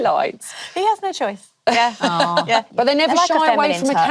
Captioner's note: laughs